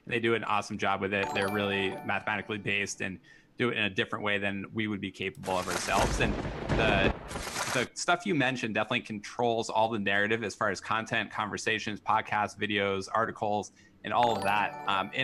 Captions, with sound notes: They do an awesome job with it. (popup chimes) They're really mathematically based, and do it in a different way than we would be capable of ourselves. (papers shuffle) (thunder booms) And the stuff you mentioned definitely controls all the narrative, as far as content, conversations, podcasts, videos, articles, and all of that. (popup chimes)